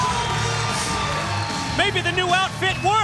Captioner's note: crowd cheering